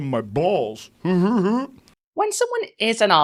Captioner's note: giggles